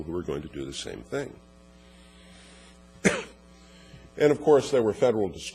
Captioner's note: cough